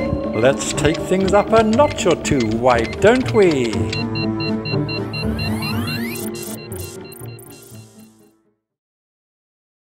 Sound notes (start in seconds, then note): 4.6 ethereal music; 4.6 laboratory machinery beeping